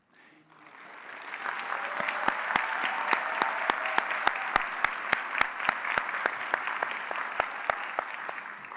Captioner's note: applause